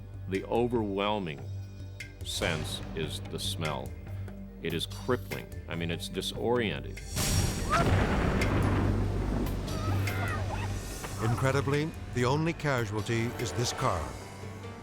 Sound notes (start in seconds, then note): 7.1 whale explodes; 9.7 crowd cheers